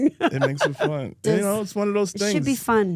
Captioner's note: Steph laughs